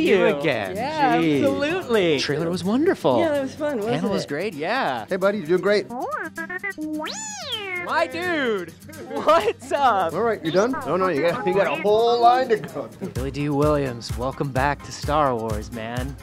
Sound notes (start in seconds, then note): 6.2 beeping